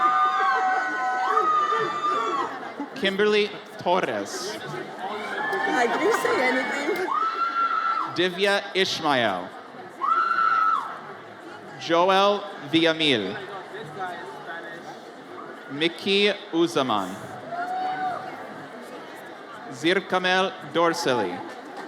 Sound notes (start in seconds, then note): 0.0 audience cheers; 10.4 audience member screams; 18.2 audience cheers